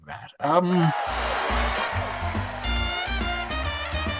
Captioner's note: audience cheering